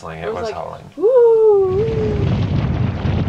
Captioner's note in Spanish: sopla fuerte viento; aullidos